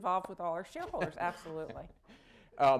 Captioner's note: laughter